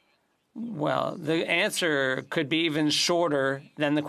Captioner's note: speaking French